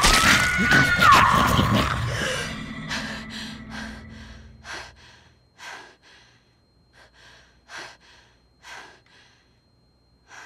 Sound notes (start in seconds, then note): 0.0 Kirsten screams; 2.2 Kirsten gasps; 4.5 heavy breathing and panting